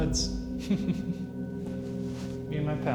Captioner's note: chuckles